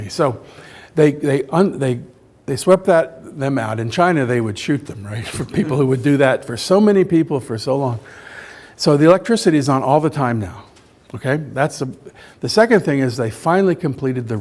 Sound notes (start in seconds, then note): 5.2 laughs